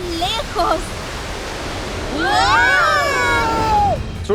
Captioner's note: group yelling